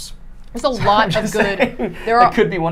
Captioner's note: laughing